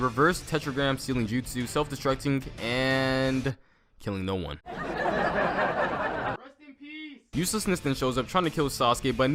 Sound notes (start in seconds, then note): 4.6 laughter